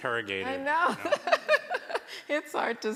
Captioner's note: laughter